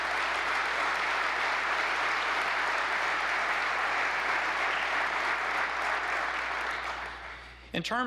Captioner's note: applause